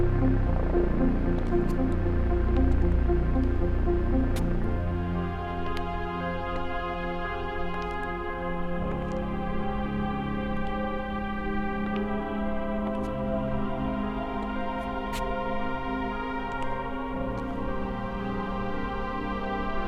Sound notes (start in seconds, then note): 1.8 footsteps tapping; 4.0 dramatic music; 13.1 footsteps tapping; 16.0 dramatic music